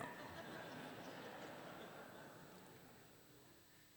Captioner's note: laughter